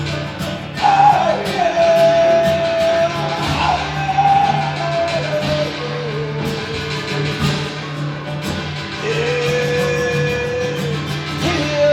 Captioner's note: humming